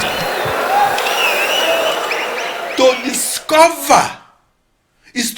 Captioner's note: wild applause and cheering for 22 seconds